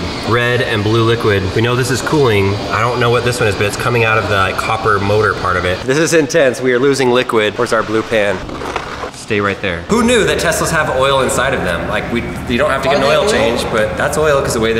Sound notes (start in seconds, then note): 8.2 plastic sliding